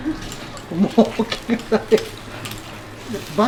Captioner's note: laughs